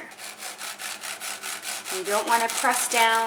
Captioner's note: knife sawing